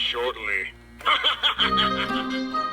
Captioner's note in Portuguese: risos macabros